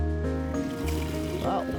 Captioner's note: water rushing